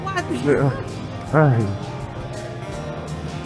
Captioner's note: laughing